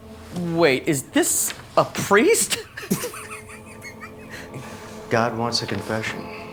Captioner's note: laughs